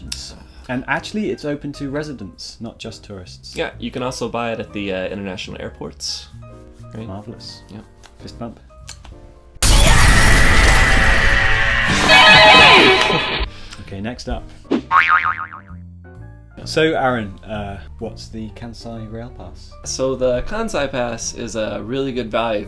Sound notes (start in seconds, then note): 10.1 screams "yeah"; 12.3 guitar riffs; 14.8 sproings